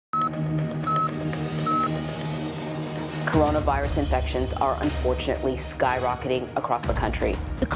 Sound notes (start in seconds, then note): 0.0 machine beeping; 0.2 urgent music